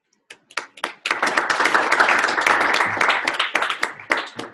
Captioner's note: applause